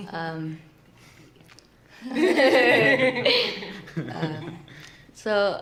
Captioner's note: laughter